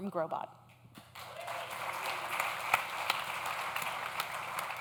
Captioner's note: audience claps